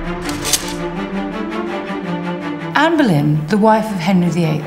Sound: sword unsheathes; sword clinks

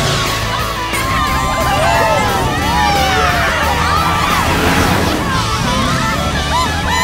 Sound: cheering

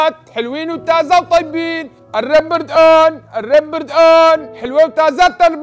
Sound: continues shouting

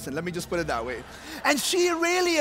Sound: congregation laughs

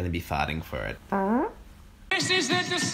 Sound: fart noise

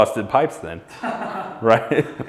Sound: laughs

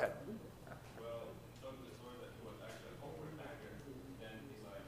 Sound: speaking faintly

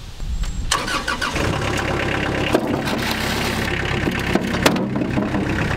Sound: machine engine roars

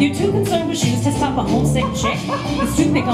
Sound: laughter

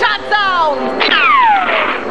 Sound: gun shot

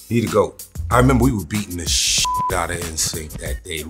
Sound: beeps

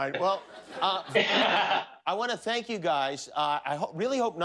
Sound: laughter

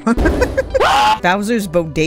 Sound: scream

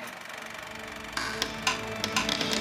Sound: reel rattles

